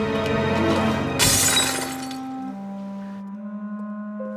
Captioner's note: crash